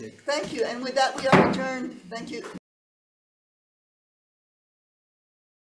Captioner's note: gavel bangs